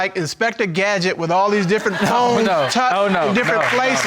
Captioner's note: audience laughing